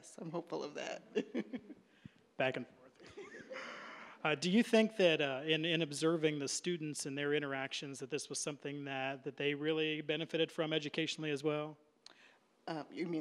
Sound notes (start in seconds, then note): 3.0 laughing; 3.0 audience laughing